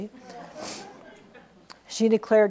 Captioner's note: audience laughs